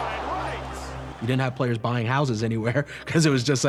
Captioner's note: laughs